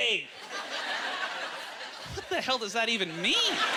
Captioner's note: audience chuckles